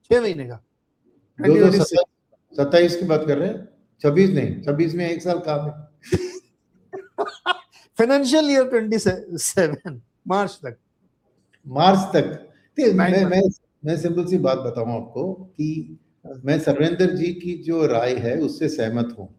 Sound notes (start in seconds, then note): 7.0 laughter